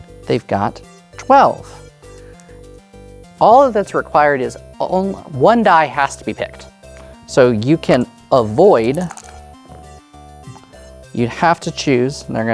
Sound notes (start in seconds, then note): 8.8 dice rattling; 8.8 dice rolling